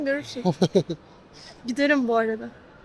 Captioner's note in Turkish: Gülüyor